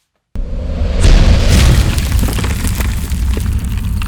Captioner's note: loud thud